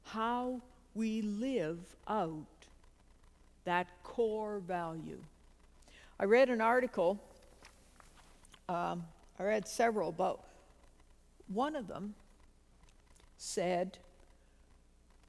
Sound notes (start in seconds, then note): none